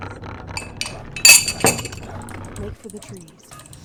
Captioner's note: cup landing on table sounds